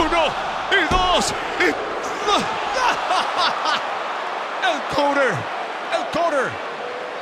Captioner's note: laugh